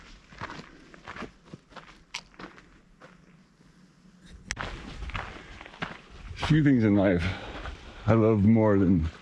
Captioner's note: wind blowing